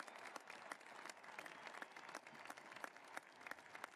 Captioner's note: cheering and applause